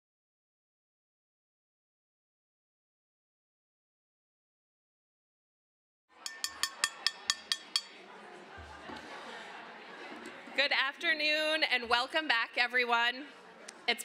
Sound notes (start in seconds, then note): 8.1 chatter